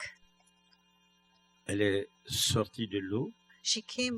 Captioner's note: speaking french